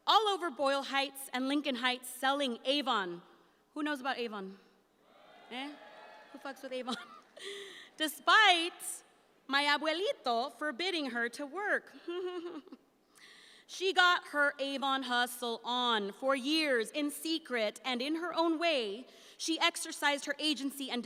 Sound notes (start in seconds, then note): 5.0 audience cheers; 6.2 laughs; 12.1 laughs sarcastically